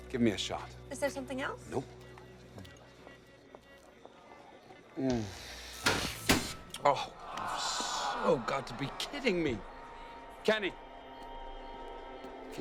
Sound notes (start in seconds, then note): 5.8 lights click; 6.8 guests groan